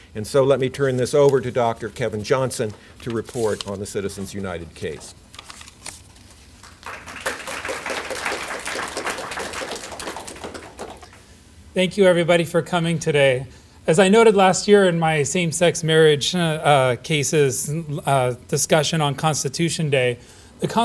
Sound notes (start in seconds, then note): 6.5 applause